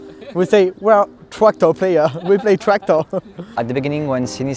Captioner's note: chuckles